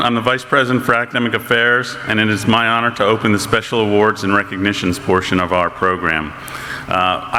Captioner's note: none